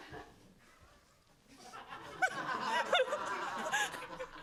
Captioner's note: laughter